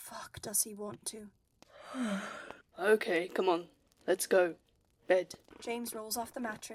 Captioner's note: Regulus yawns again